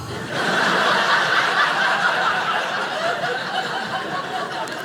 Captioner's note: audience laughing